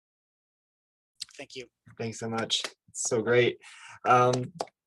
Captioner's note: clapping